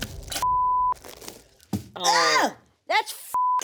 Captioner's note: beep; wretches; beep